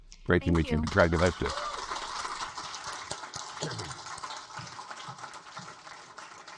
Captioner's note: audience applaud